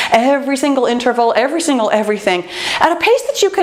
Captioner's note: none